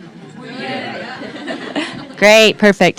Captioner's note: crowd